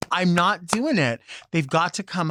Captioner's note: claps